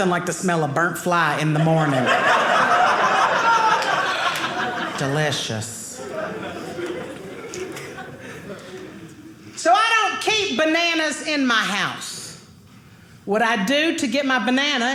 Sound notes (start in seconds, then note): 1.7 audience laughing